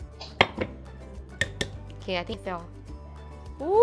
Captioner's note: tap tap